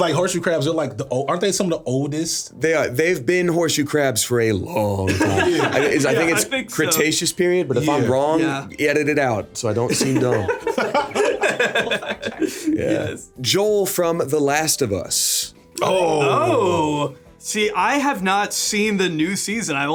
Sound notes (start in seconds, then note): 9.9 everyone laughing